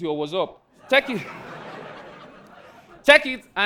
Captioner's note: audience laughing